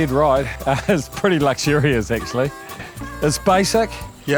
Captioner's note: laughs